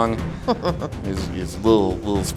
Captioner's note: laughs